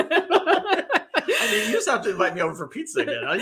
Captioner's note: laughing